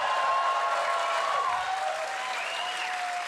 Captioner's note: cheering